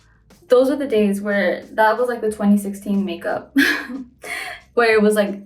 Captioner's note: laughs